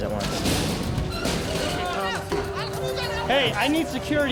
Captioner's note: yelling and gunfire